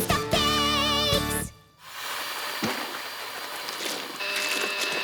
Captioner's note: mixer whirring; smoke hisses